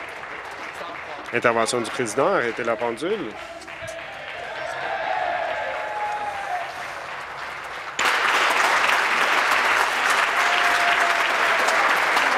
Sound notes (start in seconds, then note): 0.0 applause; 8.5 cheering